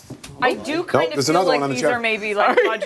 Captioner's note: laughter